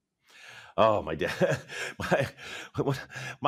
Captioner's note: chuckling